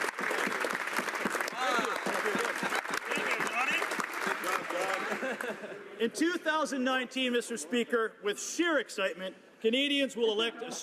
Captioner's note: some Applause